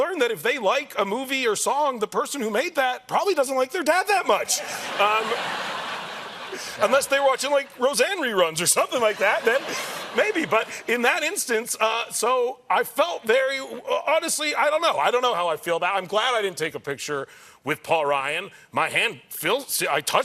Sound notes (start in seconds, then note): 4.4 laughter